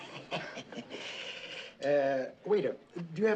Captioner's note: kıkırdama